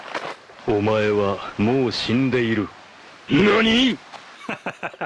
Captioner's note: speaks Japanese